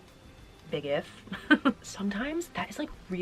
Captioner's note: laughing